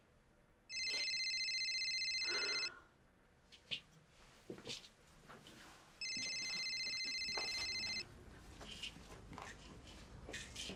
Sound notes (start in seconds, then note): 0.7 cellphone ringing